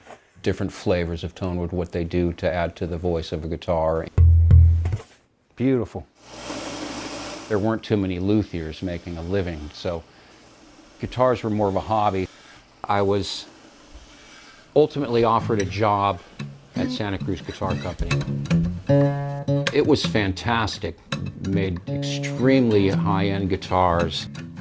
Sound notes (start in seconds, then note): 4.1 hollow thuds